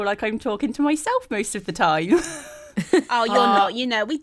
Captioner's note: laughs